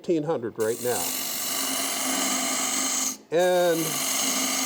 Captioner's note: wood rasping